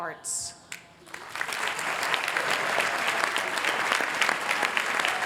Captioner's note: applause